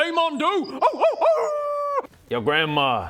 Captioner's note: howls